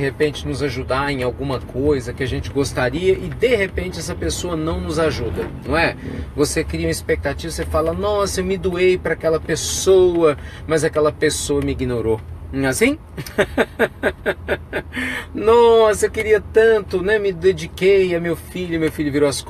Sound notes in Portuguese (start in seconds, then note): 13.2 risos